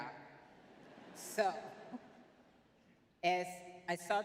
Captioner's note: laughs